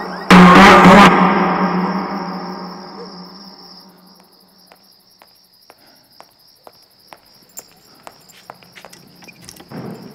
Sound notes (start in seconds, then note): 5.6 footsteps